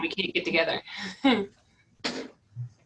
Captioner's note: laughter